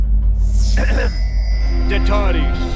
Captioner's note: clearing throat; speaking foreign language